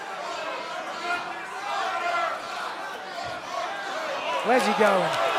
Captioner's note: crowd chatter